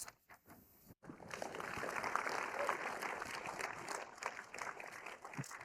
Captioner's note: audience applauding